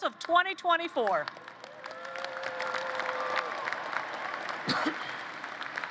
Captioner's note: applause